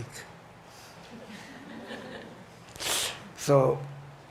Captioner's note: audience chuckles